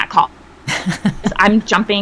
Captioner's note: person laughing